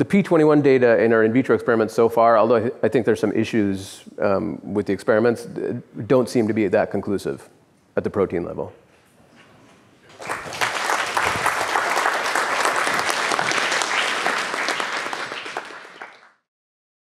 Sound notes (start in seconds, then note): 10.1 applause